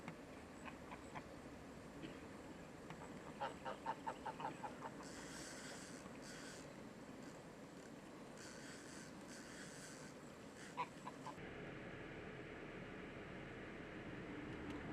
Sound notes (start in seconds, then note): 0.2 geese squawking; 5.0 fishing line whirring